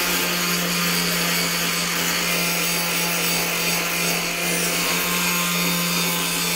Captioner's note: tool Sound